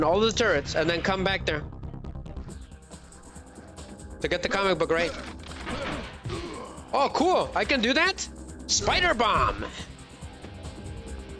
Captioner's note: groaning